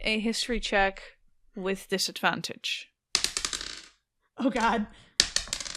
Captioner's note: dice clacks